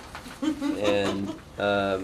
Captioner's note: laughter